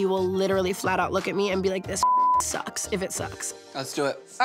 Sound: beep

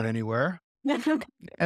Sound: laugh

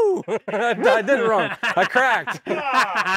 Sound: laughs; group laughs

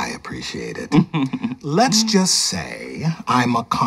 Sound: chuckling

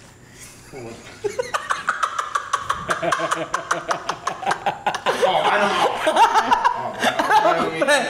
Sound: laughter

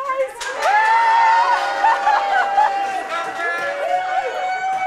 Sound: screaming

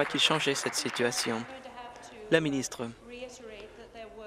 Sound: applause

